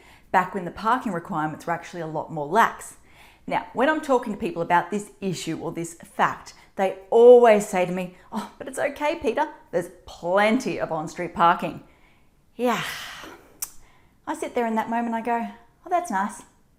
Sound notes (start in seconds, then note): 12.8 sighs